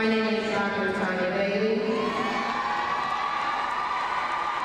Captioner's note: crowd cheering